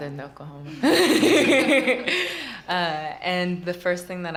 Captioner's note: laughter